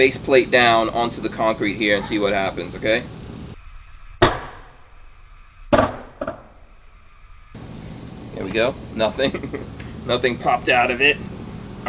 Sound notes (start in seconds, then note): 4.1 slowed down thudding; 9.1 chuckling